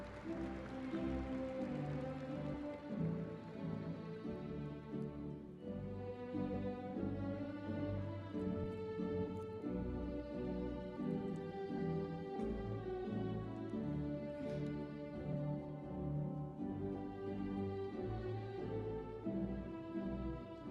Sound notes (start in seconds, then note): 0.0 audience applauding; 0.9 celebratory music; 13.4 celebratory music continues